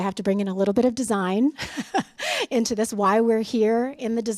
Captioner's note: laughter